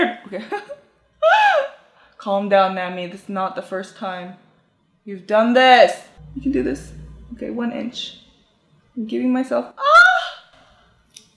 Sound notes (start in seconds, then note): 0.8 laughs; 9.5 gasps